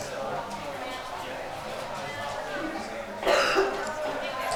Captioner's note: attendees chatter